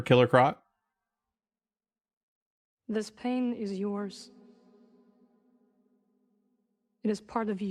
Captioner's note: silence